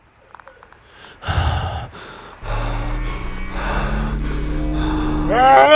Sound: heavy breathing

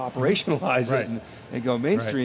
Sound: laughing

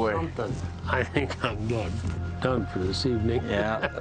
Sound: laughing

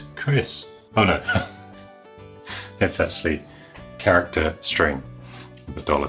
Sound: chuckles

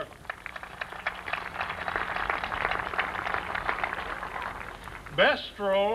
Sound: applause

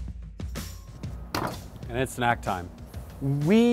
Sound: upbeat music; meat thuds against board

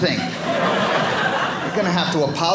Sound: audience laughing

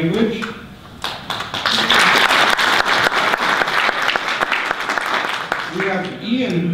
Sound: audience applause

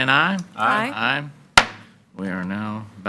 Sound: gavel bangs

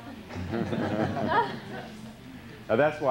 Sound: laughter

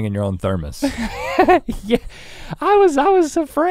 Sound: chuckles

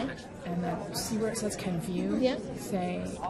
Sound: voiceover

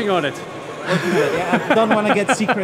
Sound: laughing

